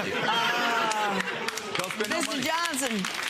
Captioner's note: audience laughs